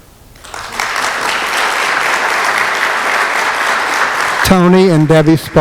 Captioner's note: applause